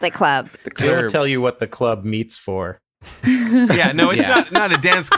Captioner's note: laughing